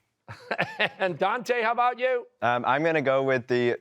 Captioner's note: laughing